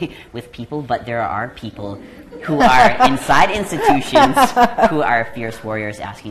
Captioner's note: laughing